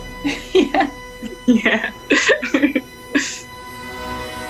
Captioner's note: laughs